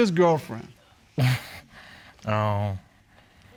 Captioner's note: scoffs